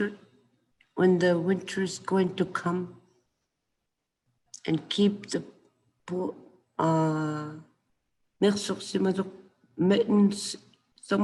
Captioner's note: speaking Inuktitut